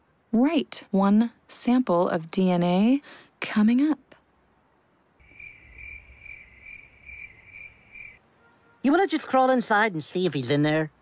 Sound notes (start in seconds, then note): 5.2 cricket noise